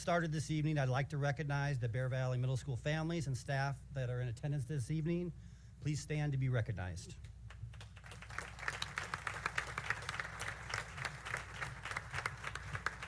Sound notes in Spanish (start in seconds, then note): 7.5 aplausos